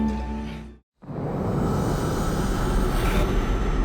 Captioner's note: ominous whooshing